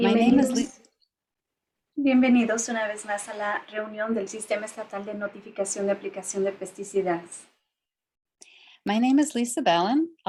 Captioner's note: spanish Speaking